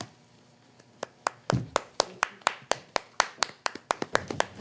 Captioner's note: clapping